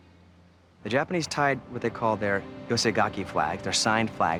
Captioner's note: japanese